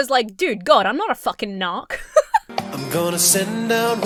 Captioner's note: Emma giggles